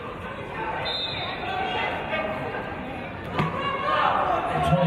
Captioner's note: referee's whistle